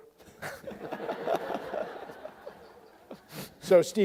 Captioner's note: audience laughs